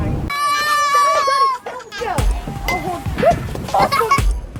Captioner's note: kids laughing; electronic music